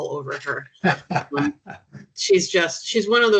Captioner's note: chuckling